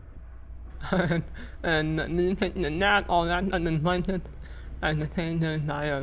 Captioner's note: laughs